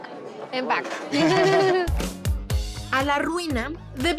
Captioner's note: both laugh